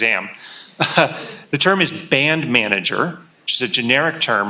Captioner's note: chuckles